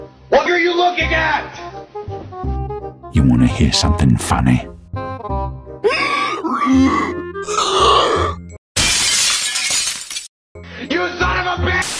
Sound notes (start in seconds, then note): 3.1 deep voice; 5.7 unholy sounds; 8.8 glass shattering